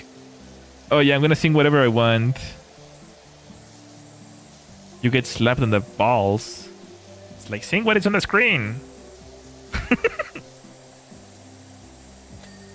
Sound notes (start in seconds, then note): 9.7 laughter